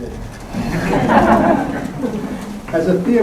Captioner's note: laughter